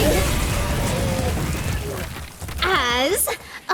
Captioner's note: violent Screaming from the Classmates